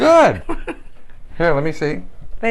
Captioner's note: laughter